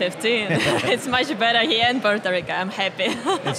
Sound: laughs

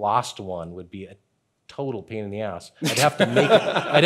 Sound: chuckling

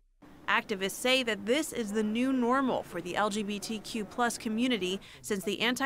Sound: voice-over

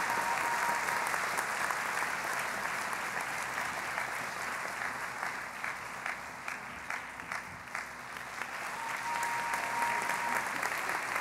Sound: cheering and Applause

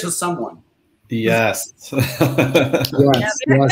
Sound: laughs

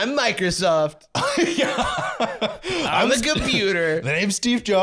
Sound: laughing

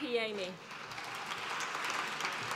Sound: applause

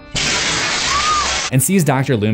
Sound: screams

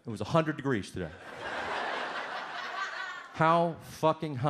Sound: audience laughs

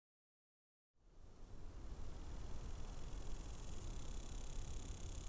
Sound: insects buzz

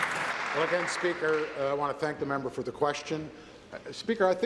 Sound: applause

